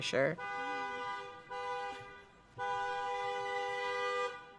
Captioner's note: horn beeping